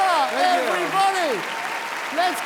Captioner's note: audience applauding and cheering